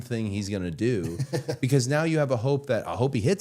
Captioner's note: Matt chuckles